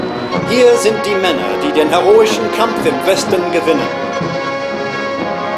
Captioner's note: speaking foreign language